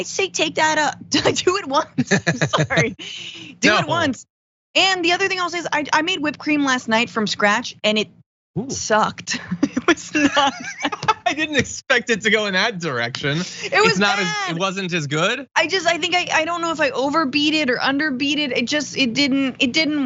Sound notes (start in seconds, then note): 2.0 laugh; 10.4 laugh